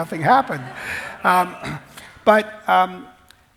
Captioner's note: laughs